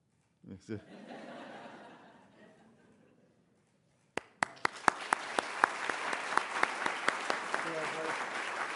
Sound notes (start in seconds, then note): 0.8 laughter; 4.1 applause